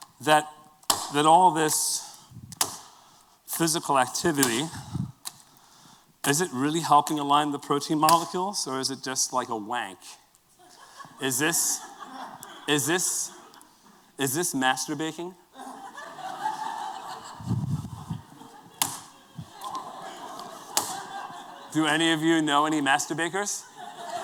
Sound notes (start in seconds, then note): 15.5 laughter